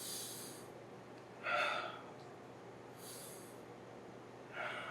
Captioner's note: inhaling and exhaling